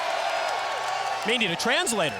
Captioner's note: crowd cheering